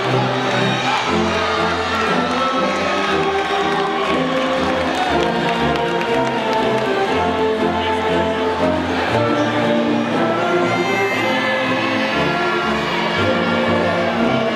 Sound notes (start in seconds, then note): 9.4 audience faintly shouting